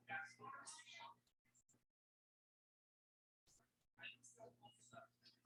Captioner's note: people chattering indistinctly